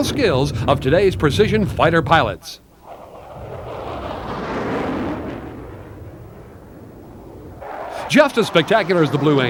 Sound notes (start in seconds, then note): 2.8 engines roar